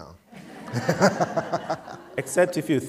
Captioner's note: laughter